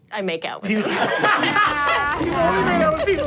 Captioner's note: everyone laughs